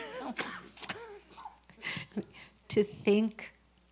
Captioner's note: laughs